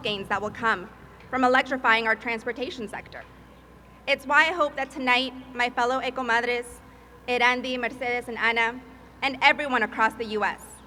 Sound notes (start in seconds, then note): 5.9 speaking Spanish